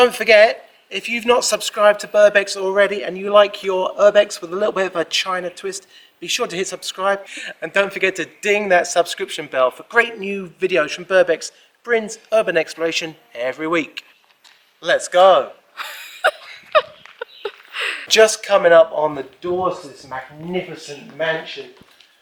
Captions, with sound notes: Don't forget - if you've not subscribed to Burbex already and you like your urbex with little bit of a China twist be sure to hit "subscribe" and don't forget to ding that subscription bell for great new videos from Burbex - Brin's Urban Exploration, every week Let's go! *giggling* Just coming up on the doors to this magnificent mansion